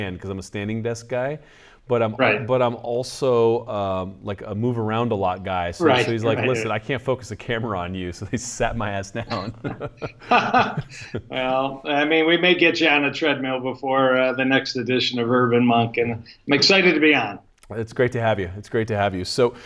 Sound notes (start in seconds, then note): 9.1 laughter